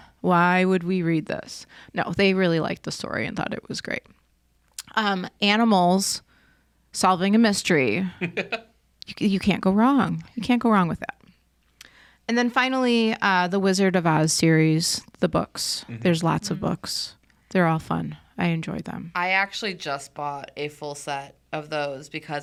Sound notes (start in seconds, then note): 8.1 laughing